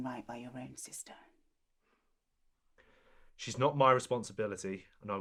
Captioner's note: none